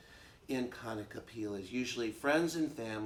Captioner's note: speaks Hawaiian